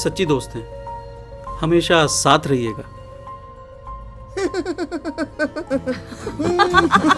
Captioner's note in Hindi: हंसी